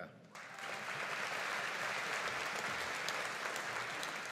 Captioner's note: audience applauding